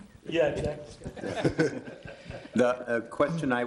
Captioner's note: chuckling; laughter from room